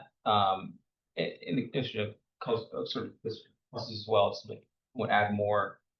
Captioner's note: speaks faintly